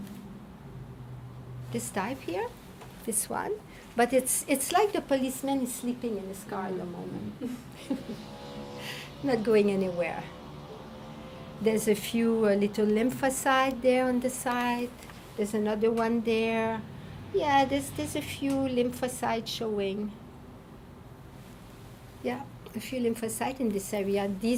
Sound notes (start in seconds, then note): 7.2 laughing